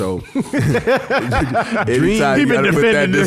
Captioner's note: laughing